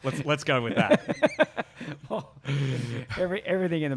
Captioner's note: laughs